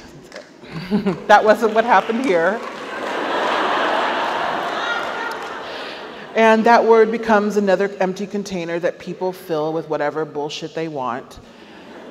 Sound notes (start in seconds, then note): 0.6 chuckles; 1.4 audience applauds; 5.1 audience laughs